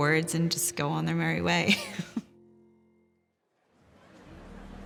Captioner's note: chuckles